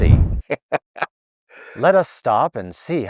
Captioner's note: laughing